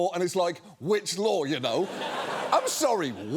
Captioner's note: audience laughs